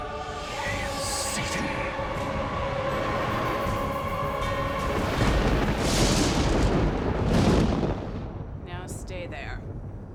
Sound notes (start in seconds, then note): 4.2 thunder